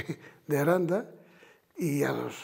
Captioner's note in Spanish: Ríe